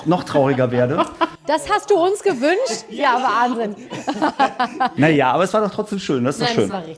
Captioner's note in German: gelächter